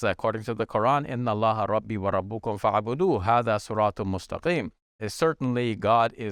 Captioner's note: speaking in Arabic